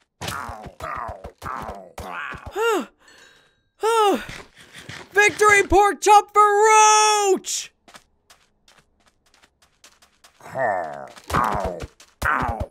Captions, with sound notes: (sighing in relief) Victory pork chop for Roach!